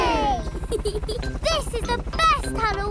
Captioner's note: peppa giggles